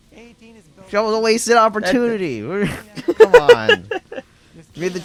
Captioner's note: laughs